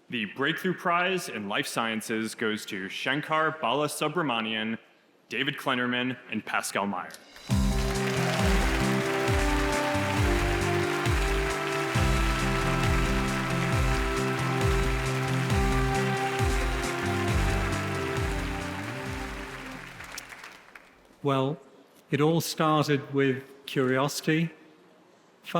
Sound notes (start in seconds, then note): 7.3 audience applauds; 8.4 wondrous music